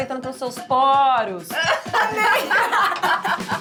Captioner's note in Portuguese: risadas